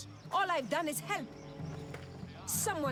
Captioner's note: none